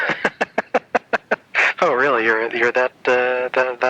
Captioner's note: laughs